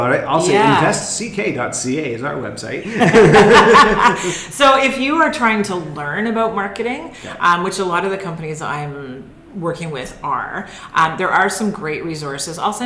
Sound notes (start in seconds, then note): 2.9 laughing